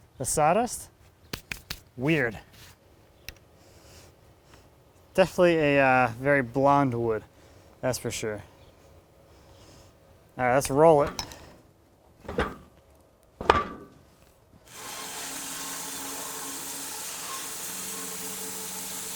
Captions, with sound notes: the sawdust, weird. Definitely a very blonde wood that's for sure. All right, let's roll it. (wood clunking) (saw whizzing)